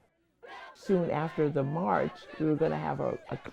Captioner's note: protesters chanting